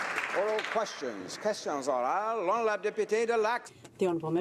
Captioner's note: applause